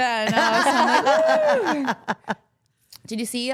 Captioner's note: all laughing